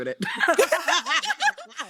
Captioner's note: laughing